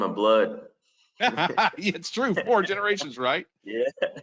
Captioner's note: laughs